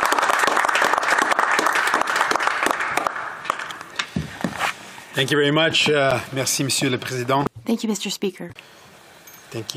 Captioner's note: applause